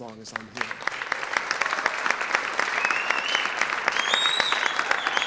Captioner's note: audience applauds